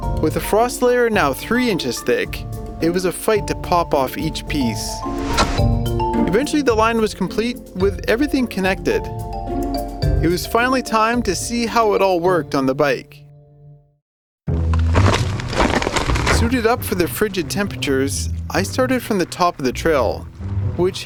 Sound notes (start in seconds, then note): 14.5 frozen ground cracking